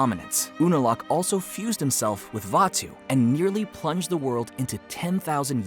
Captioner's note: none